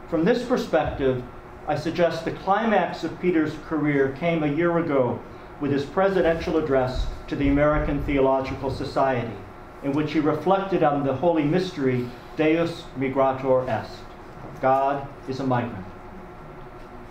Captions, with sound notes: From this perspective, I suggest the climax of Peter's career came a year ago, with his Presidential address to the American Theological Society in which he reflected on the holy mystery (speaking a foreign language), God is a migrant.